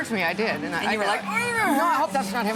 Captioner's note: pained, awkward noise